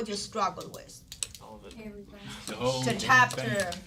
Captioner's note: students murmur